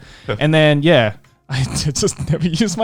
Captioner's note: giggles